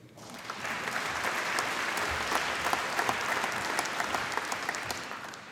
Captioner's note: applause